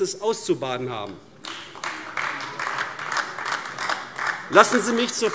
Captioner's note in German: Beifall AfD